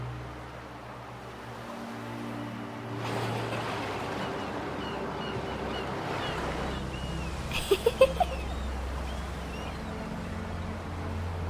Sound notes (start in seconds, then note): 3.5 waves crashing; 7.5 laughter